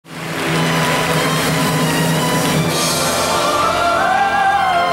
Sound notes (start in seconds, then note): 0.0 audience clapping; 0.1 dramatic music